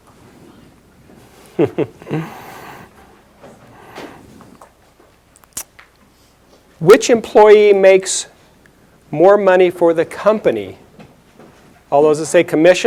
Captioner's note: chuckles